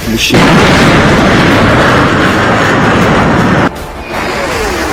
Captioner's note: plane engine roaring